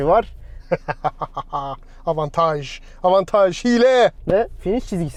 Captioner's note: evil laugh